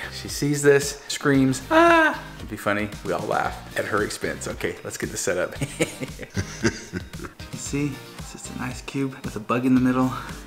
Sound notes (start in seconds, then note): 5.6 evil laughter; 5.6 laughs